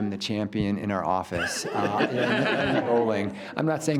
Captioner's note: group laughs